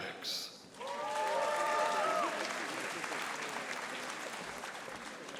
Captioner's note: audience applauding